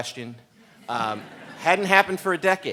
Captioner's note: audience laughs